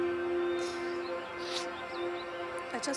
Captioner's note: Sniffs